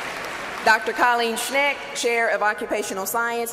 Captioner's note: cheers and applause